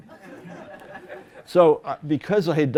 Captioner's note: laughter